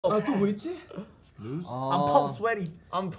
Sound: speaking in Korean

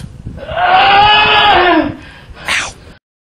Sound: scream of pain sound effect

